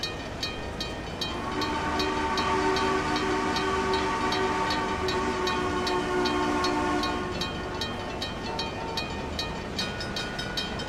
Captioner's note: CNJ Blue Comet Pacific whistle